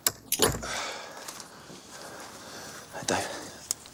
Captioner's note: chain rattling; John sighs